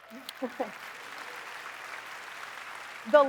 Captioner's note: applause